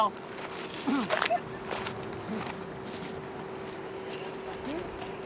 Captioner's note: crew chattering